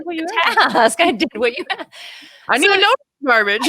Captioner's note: laughing